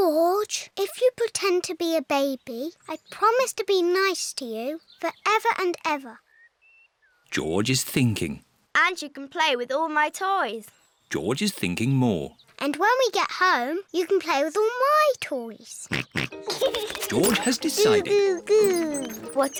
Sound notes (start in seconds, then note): 15.9 snorts and giggles